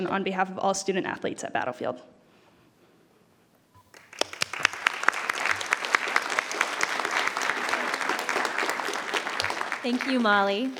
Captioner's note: applause